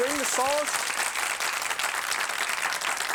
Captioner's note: applause